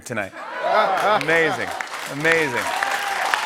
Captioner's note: cheers and applause